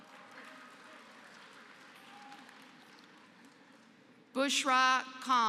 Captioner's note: applause